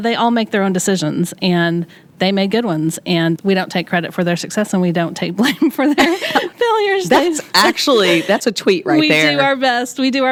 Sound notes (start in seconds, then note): 5.5 laughs